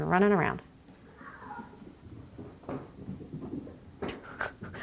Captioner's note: cat meows; laughs